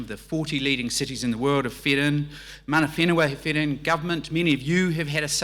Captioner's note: speaks in foreign language